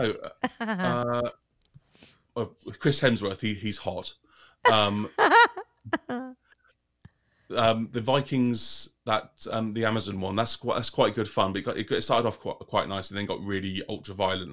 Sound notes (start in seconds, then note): 4.6 laughs